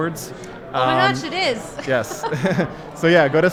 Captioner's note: laughs